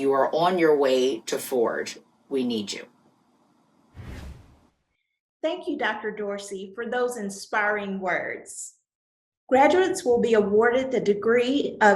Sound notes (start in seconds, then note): 3.9 air whooshing